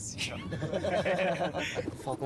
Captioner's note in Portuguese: risos